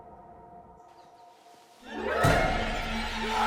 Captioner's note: birds chirping; dramatic music